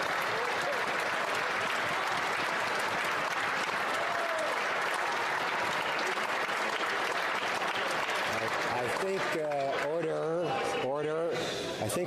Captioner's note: some Applause